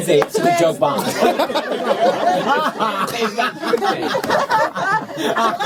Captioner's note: laughter